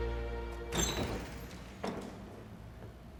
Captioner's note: door opens